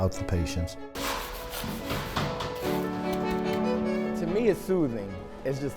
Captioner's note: cement smearing